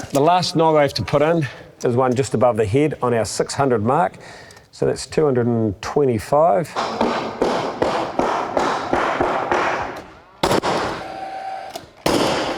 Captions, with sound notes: The last nog I have to put in is one just above the head on our 600 mark, so that's 225. [HAMMERING SOUND] [NAIL GUN SOUND]